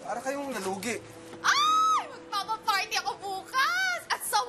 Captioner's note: woman screams